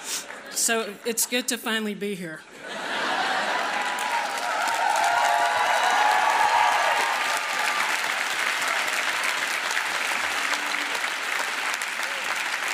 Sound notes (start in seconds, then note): 2.3 applause